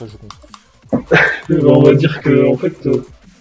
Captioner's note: laugh